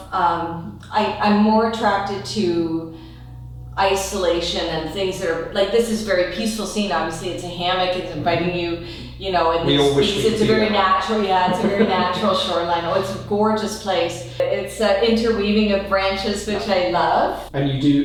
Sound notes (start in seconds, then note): 11.2 laughter